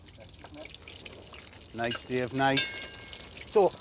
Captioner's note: sizzling